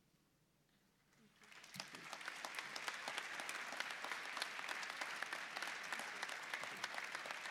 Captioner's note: applause